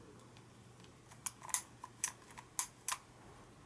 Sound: click SNAP, click, SNAP click

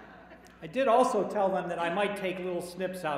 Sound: laughter

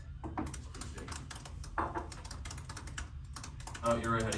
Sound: keyboard typing

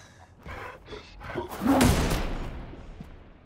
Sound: guns firing

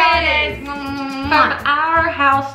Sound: kisses

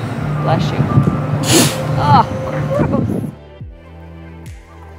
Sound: sea lion sneezes; bigger sea lion sneeze

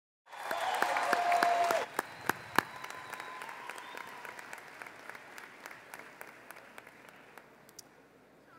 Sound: applause

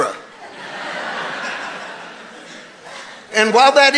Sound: congregation laughing

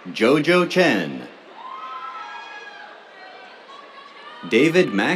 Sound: cheers

